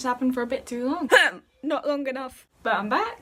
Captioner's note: cough